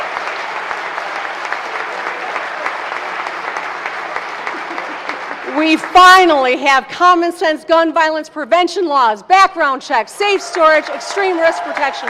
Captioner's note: applause